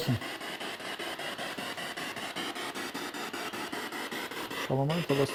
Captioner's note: noise of the spiritbox in the background